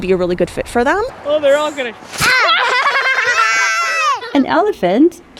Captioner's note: laugh